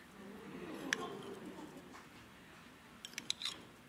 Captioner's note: audience oohs